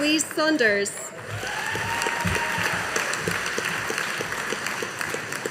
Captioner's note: audience applauding